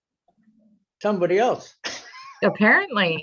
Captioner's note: giggles